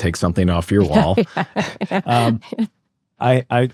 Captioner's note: laughs